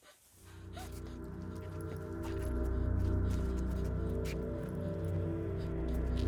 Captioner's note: ominous music; Abby gasps